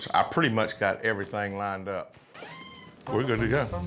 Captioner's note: door squeaks open